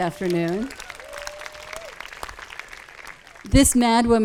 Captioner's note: audience claps and cheers